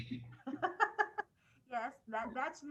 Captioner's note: laughing loudly